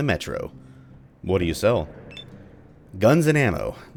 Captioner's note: thunder